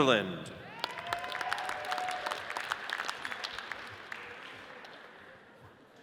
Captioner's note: audience cheers and applauds